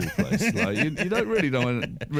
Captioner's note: laughter